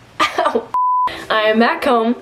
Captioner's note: screen beeping